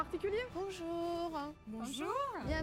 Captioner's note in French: en choeur